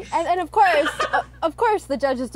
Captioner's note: laughs